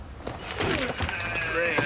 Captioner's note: door closes